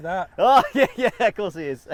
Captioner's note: laughing